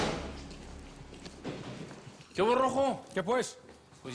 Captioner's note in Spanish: Portazo